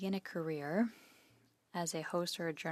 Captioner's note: speaking in French